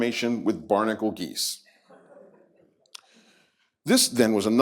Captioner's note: laughter